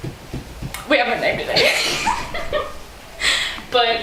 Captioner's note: laughter